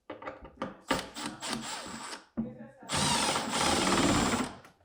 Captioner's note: drill whirring